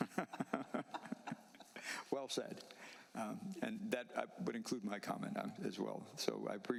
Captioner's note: laughter